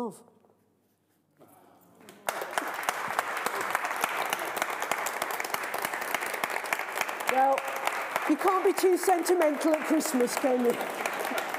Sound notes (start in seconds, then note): 2.0 applause